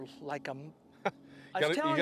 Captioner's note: laughter